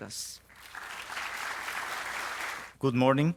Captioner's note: audience claps